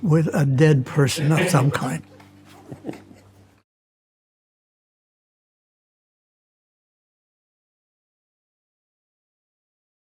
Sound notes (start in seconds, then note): 2.5 crew laughs; 2.5 laughs